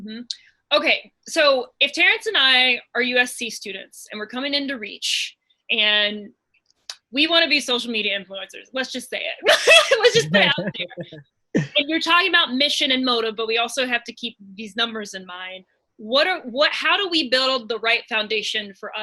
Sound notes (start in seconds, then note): 9.4 laughs